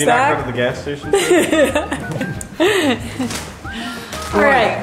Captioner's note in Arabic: يضحك